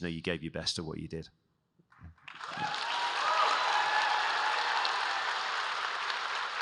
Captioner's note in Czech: Potlesk